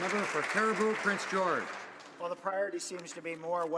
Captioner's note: some Applause